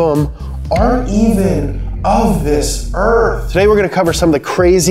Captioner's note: voice echoing